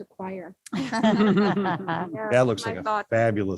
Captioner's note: all laugh